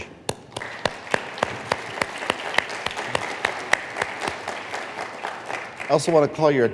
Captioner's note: applause